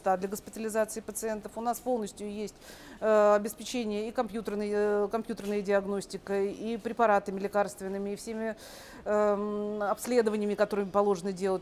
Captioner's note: speaking russian